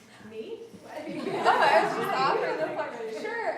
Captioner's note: audiences laughs